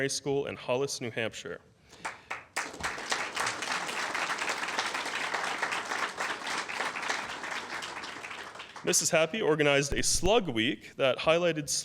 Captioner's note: applause